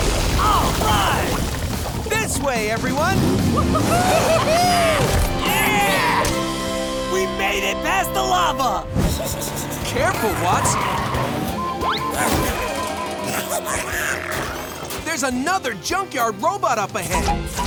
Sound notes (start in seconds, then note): 3.8 cheering; 11.8 robot chuckling; 13.2 chuckling, chattering